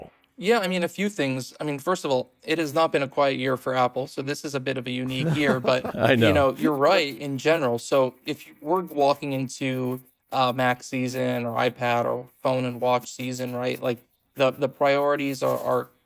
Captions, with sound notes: Yeah, I mean, a few things. I mean, first of all, it has not been a quiet year for Apple, so this is a bit of a unique year, but- (laughs) I know. ... you know, you're right in general. So if you were walking into a Mac season or iPad or phone and watch season, right, like, the, the priorities are, are